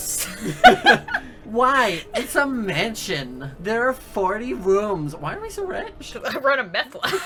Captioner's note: lols